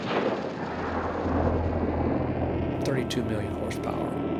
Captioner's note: boosters roaring